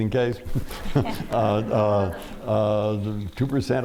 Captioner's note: laughter